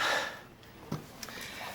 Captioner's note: sighs